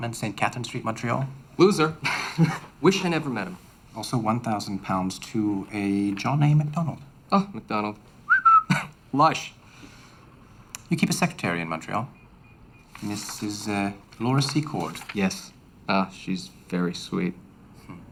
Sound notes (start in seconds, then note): 1.9 laughs; 8.2 whistles